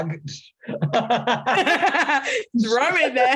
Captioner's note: laughing